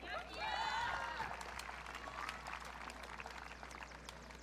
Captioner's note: audience cheering